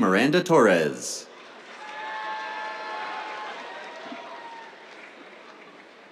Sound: cheers, applause

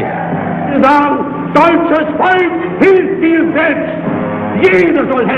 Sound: Hitler speaking German

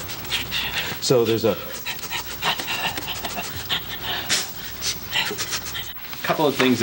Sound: both breathing quickly; sound of breathing

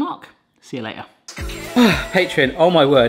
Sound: upbeat music; sighs

